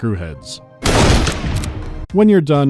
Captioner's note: bang